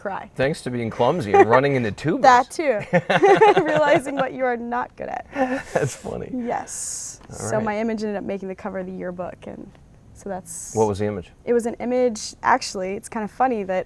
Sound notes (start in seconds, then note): 2.8 laughing